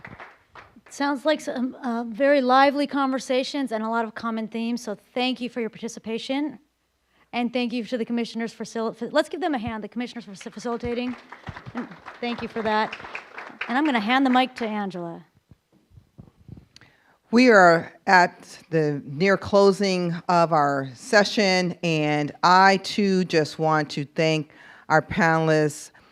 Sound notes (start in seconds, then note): 10.3 applause